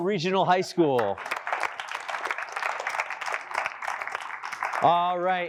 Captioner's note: applause